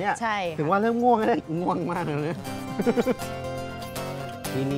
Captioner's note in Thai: เสียงหัวเราะ